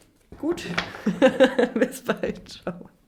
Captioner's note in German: gelächter